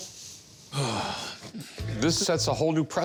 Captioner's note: sighs